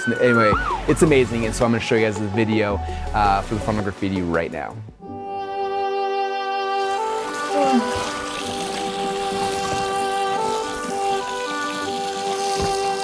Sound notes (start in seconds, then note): 0.0 siren wailing; 7.3 yawning; 8.4 water splashing